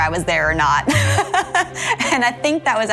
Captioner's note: laughing